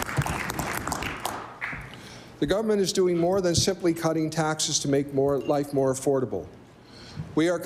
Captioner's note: applause